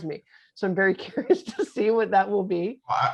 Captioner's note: laughing